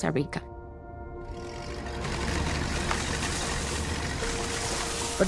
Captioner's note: engine roaring